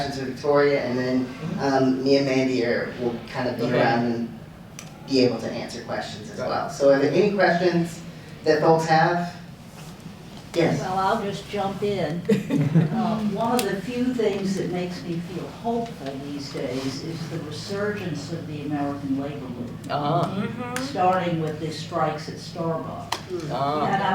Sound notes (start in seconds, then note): 12.2 chuckling